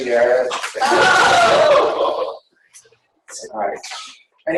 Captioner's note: laughing